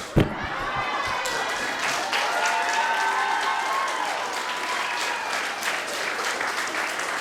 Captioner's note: audience applauding; audio cheering